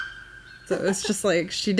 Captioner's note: ‘Alalā calls